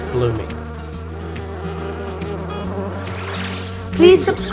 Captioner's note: bees Buzzing